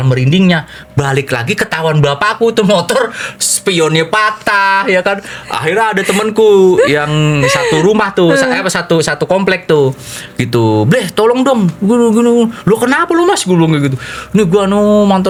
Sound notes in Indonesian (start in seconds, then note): 8.2 tertawa